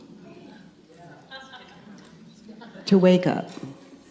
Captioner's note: woman in the audience laughs